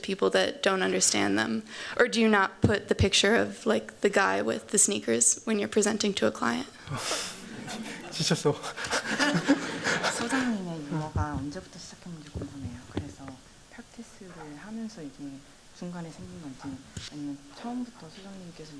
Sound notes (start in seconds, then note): 6.9 laughter; 10.3 non-english speech